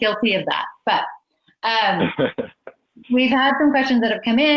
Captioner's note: laughs